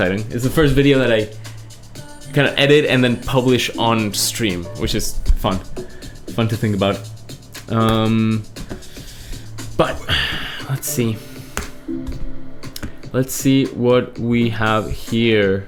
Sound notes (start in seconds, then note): 9.8 sighs